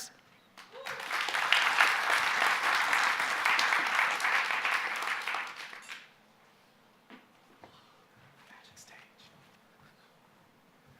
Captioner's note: applause